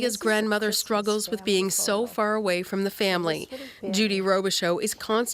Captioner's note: chuckling